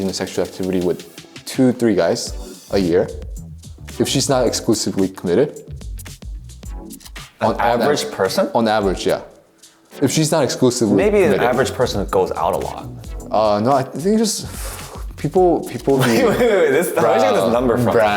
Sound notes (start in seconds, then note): 14.2 sighs